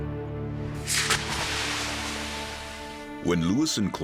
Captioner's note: brand sizzling